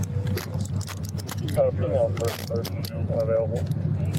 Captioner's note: radio chatter